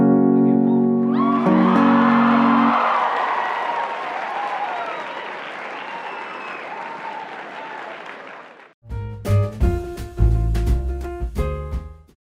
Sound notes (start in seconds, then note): 1.0 cheering